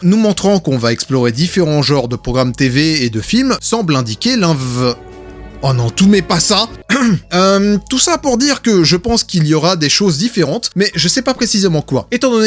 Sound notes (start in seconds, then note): 6.8 coughs